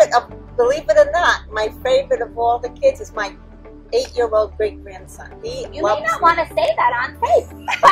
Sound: laughing

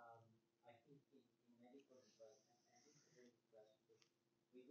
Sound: student speaks faintly

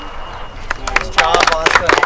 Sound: crowd

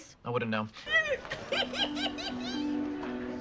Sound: giggles

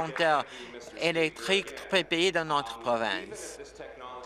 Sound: applause

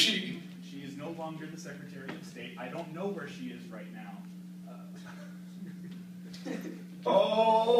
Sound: exasperated laugh

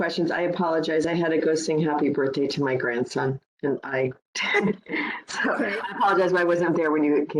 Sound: laughing

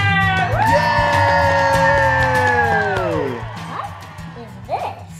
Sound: cheering

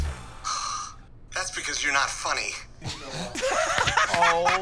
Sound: sighs; laughs

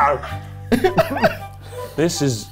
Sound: giggles

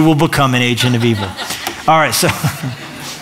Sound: laughter

